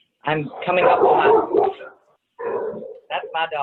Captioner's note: dog barking